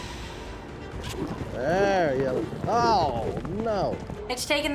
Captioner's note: sighs deeply; rope swirling